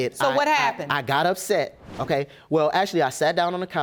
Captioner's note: stuttering